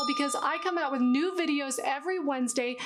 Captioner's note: bell sound